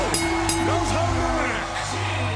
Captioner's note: crowd cheering